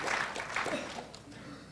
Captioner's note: applause